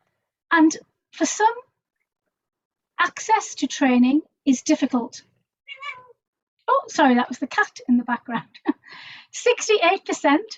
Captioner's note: meow